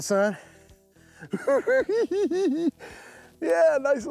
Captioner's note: giggles